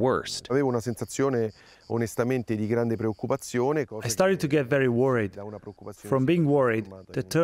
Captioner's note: through translator